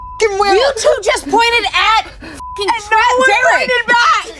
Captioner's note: beep